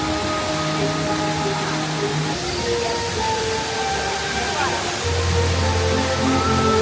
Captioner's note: bright music; water whooshing